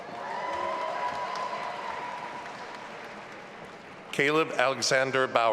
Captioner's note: audience applauding and cheering